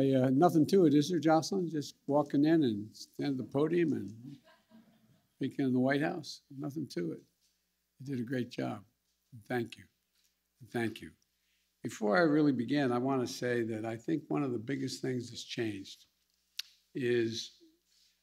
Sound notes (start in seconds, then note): 4.2 laughter